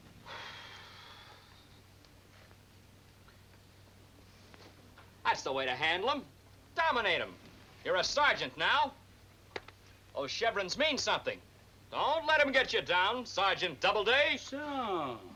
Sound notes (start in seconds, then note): none